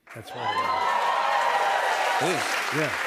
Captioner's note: cheers and applause